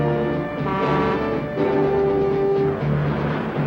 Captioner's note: horn blares; dramatic music; truck engine whirring